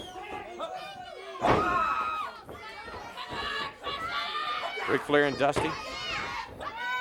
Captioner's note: crowd cheering